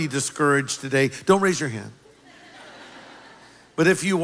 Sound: laughter

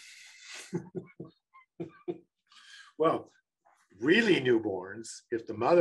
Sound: laughs

